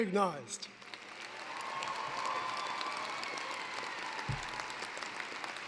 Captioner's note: cheering, applause